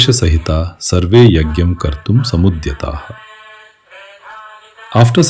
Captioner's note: sanskrit verse recitation